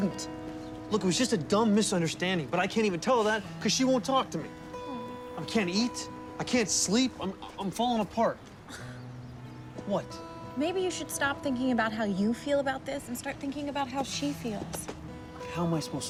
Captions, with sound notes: I DIDN'T! LOOK, IT WAS JUST A DUMB MISUNDERSTANDING, BUT I CAN'T EVEN TELL HER THAT BECAUSE SHE WON'T TALK TO ME! I CAN'T EAT. I CAN'T SLEEP. I'M-- I'M FALLING APART! -[ERIN SCOFFS] -WHAT? MAYBE YOU SHOULD STOP THINKING ABOUT HOW YOU FEEL ABOUT THIS AND START THINKING ABOUT HOW SHE FEELS.